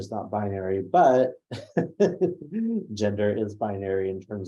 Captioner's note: laughs